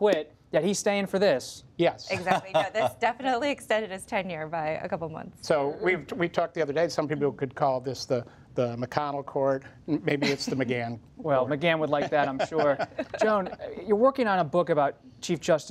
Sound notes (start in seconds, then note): 2.1 laughter; 11.9 laughs